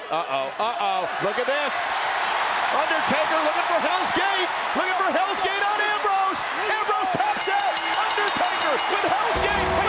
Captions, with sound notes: Uh-oh, uh-oh, look at this. (audience cheers) Undertaker looking for Hell's Gate. Looking for Hell's Gate on Ambrose. Ambrose taps out. (audience cheers) (bell rings) Undertaker with Hell's Gate.